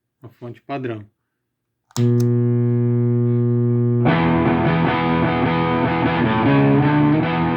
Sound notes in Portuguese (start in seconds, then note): 1.9 Ruído 60hz fonte